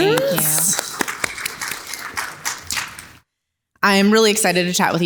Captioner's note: audience applauding